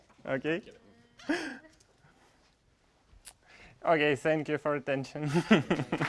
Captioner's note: laugh; laugh; applause